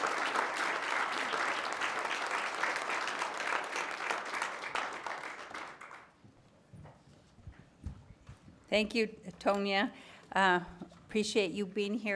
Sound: applause

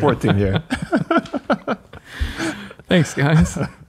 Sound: laughing

